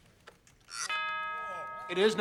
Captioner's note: chimes